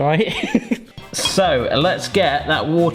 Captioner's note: laughing